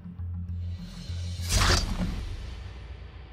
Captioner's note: swishes